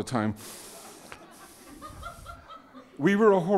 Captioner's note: audience laughing